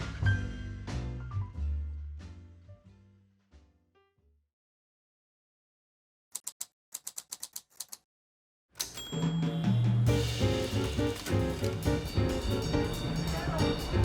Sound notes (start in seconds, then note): 6.3 typewriter clicks